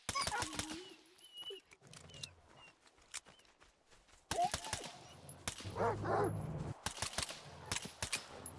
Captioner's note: gunfire; dog barking; gunfire